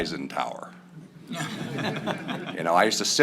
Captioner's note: laughter